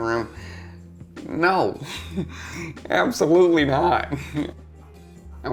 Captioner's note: laughs